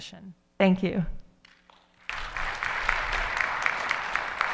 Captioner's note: audience applauding